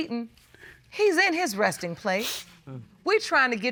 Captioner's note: sniffles